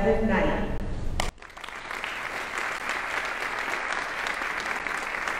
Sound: audience applauding

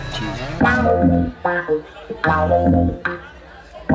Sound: crowd chatters, shouts

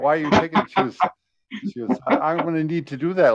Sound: laughs

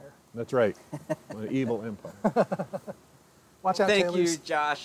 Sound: laughing

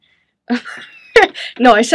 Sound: chuckles

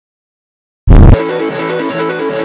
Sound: explosion

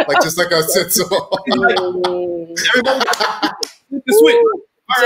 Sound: laughing

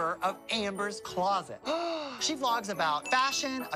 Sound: gasps

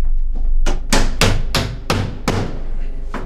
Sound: hammering continues

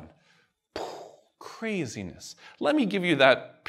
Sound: vocalizes explosion

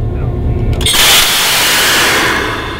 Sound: loud whoooooosh

